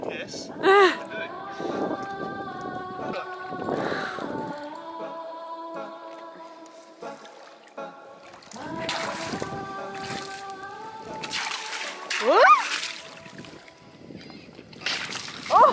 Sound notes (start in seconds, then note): 0.6 laughs; 4.2 gentle happy music; 4.2 water splashing; 12.2 screams